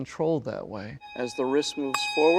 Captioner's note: nats: bell ringing